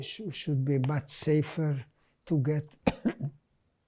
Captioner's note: coughing